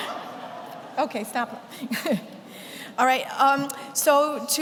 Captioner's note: chuckles